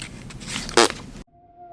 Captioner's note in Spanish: ruido con la boca